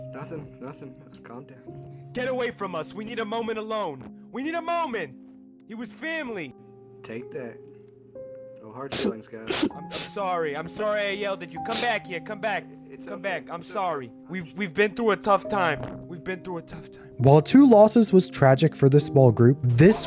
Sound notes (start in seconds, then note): 9.4 sobs; 11.6 sobs in the back